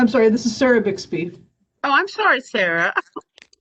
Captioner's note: laughter